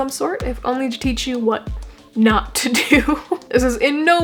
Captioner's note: laughing